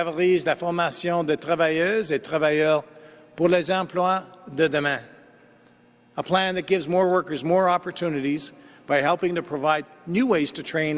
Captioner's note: speaking French